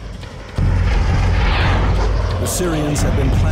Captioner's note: airplane engines roaring